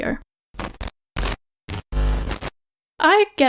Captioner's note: glitching sounds